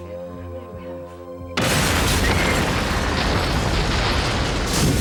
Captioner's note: explosion, glass breaking